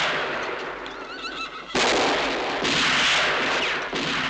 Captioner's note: horses whinnying